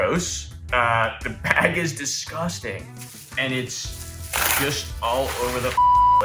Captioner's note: beep